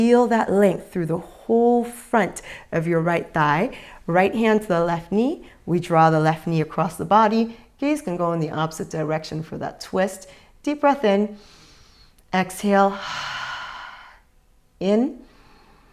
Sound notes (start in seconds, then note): 12.9 exhales; 12.9 inhales